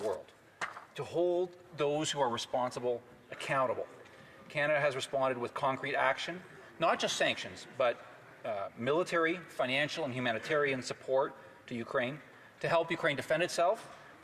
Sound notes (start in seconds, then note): none